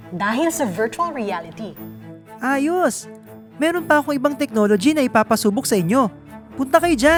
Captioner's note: none